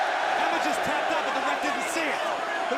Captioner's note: crowd cheering